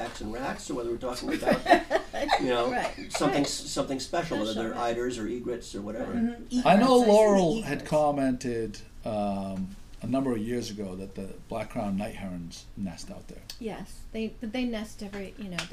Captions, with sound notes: and rats or whether we're talking about-- (laughing) Or something special whether eyers or igrettes, whatever. - [Voiceover] I know Laurel had commented a number of years ago that the black crown night herons nest out there. - [Voiceover] Yes, but they nest every, you know,